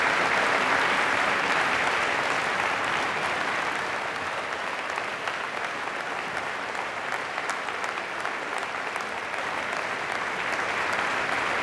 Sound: applause

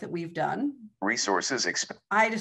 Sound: recorded voice

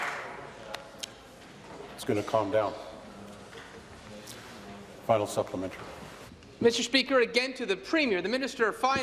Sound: applause

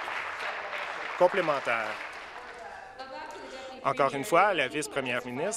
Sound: applause

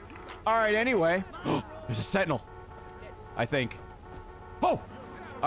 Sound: gasps

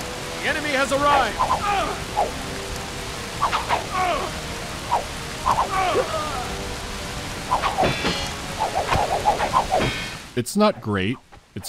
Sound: rustling rain; generic swooshing of swords, grunts of pain and clanking of metal

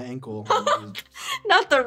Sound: laughs

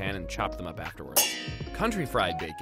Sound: pans banging together

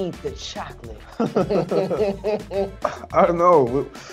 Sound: both laugh

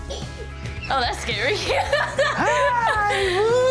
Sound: laughs

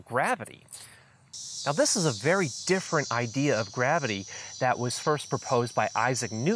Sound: cicadas singing loudly

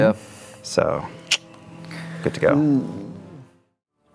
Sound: clicks tongue

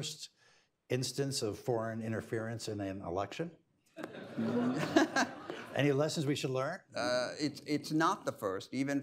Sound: laughter

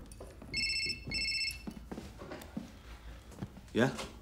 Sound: phone ringing

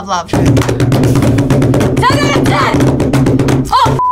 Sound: table thumping

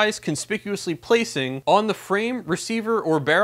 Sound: impressed

